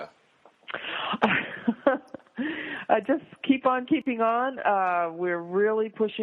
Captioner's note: laughs